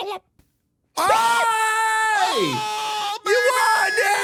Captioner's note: Donald Duck noises; screams